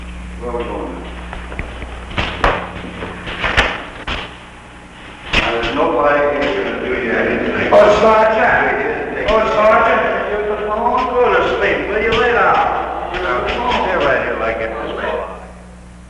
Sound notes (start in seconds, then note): 8.0 prisoners yell as they walk down the hallway